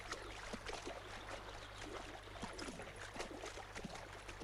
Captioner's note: water splashing